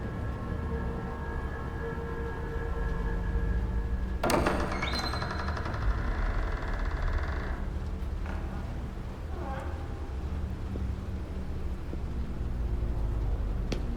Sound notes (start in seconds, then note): 4.2 door cranks open